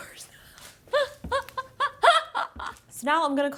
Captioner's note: laughing